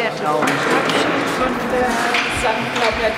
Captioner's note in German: Hallender Arbeitslärm